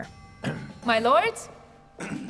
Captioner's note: man clears throat